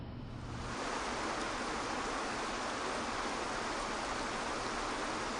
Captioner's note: water flows heavily